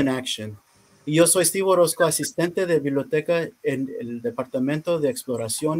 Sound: speaking in foreign language

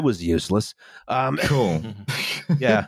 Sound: laughter

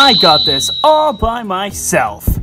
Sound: whistle

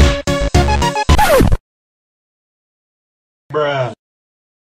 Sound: record scratch sound effect followed by the bruh sound effect

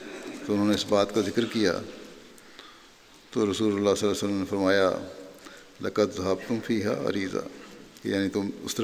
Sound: Arabic

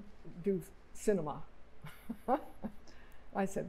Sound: laughter

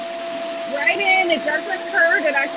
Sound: RevAir whirs

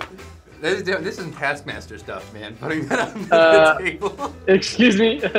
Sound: laughs

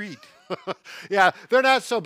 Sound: laughs

